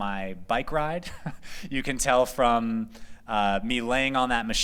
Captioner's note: laughter